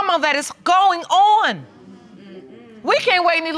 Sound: audience coos

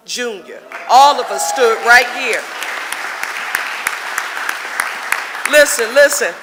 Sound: audience applauding

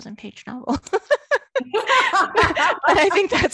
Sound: laughing; laughs

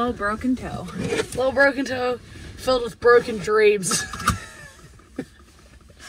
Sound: laughs

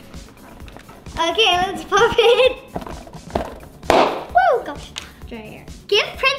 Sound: balloon pops

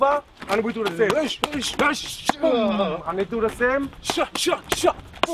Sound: fighting noises; more fighting noises

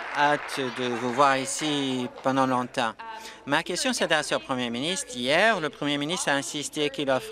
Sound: applause

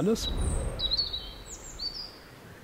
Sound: birds chirping

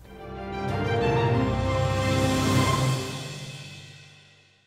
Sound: light cinematic sound

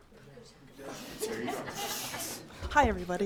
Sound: spectators laughing

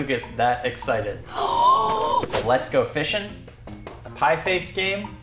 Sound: chuckles; gasps loudly

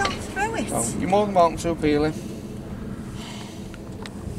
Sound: sighs

